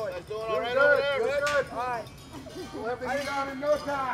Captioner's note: overlapping chattering